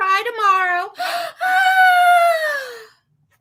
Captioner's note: yawns